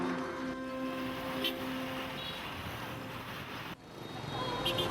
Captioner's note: horn honking